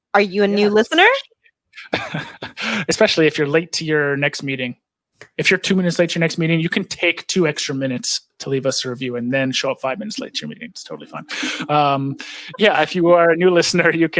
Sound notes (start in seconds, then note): 1.8 laughs